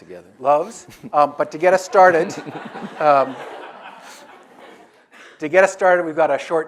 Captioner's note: audience laughs